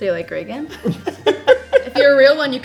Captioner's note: all chuckling